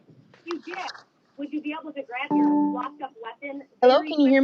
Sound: background chatter

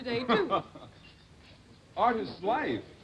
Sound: laughter

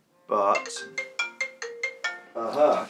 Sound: phone rings

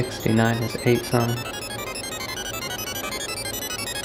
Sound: popping

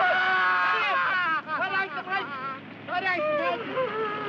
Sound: Mike yelling

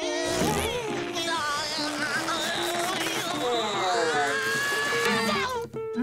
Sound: groaning

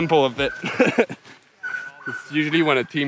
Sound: laughing

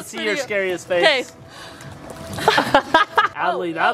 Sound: laughter

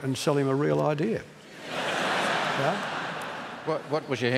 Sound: laughter

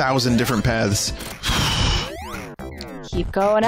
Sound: exhales

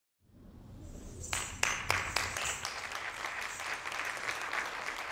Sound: audience applauding

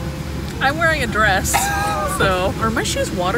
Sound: laughing

